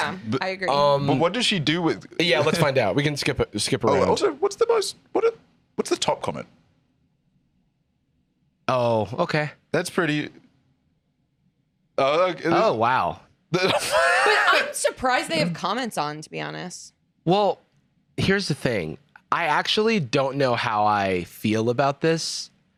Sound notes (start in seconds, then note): 13.6 laughs